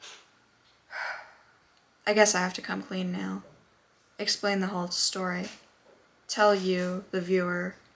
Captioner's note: sigh